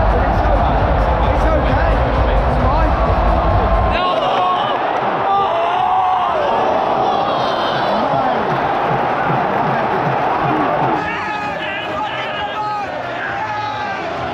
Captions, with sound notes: - But it's okay. It's okay. It's fine. Come on. (crowd groaning) (everyone cheering)